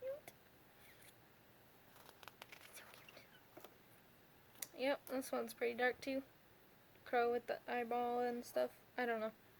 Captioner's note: whisper